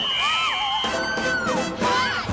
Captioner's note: whistle blows; women shriek